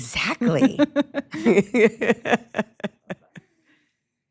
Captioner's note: ladies laughing